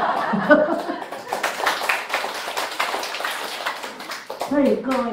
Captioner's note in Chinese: 眾人鼓掌